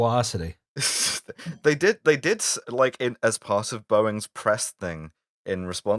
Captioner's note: laughter